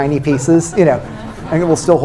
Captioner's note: laughter